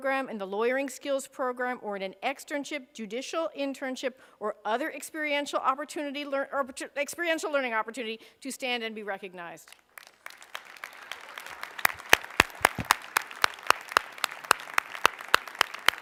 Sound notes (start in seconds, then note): 9.7 applause